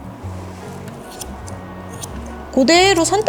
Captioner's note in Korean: 가위질 소리